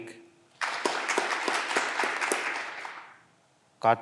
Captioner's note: clapping continues